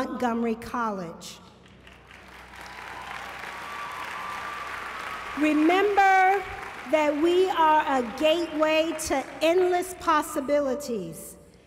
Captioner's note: applause